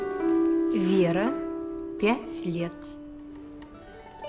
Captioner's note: the woman speaks in russian; cheerful music